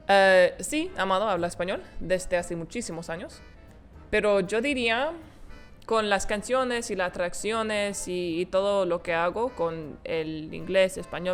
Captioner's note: speaking Spanish